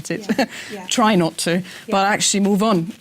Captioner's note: laugh